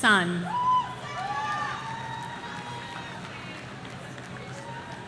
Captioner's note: audience cheering